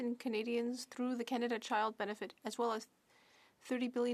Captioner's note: speaking French